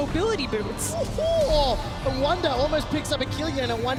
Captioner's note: whooping